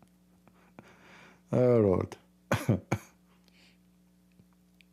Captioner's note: Ketawa